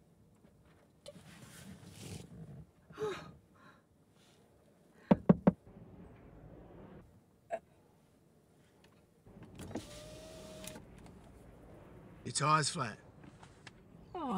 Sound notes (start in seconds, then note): 5.1 knock, knock, knock